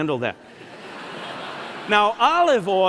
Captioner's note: laughter